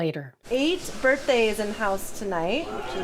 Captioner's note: exclamations